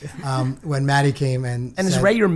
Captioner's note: laughing